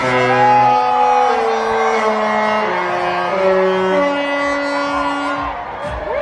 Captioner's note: ship horn blasts